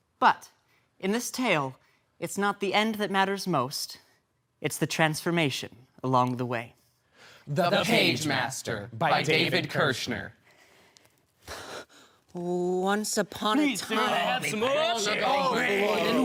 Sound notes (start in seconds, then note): 10.4 soft breathing